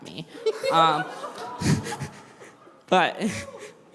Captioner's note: laughter